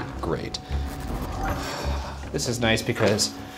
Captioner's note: sighing